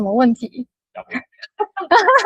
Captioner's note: laughter